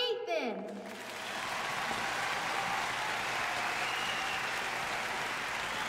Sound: cheering

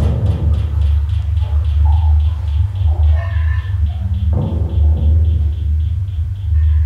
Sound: thudding

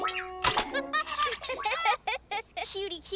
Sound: laughter

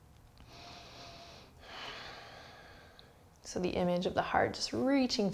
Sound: heavy breathing

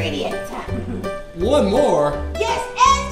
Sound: voiceover

